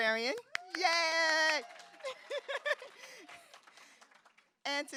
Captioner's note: audience cheering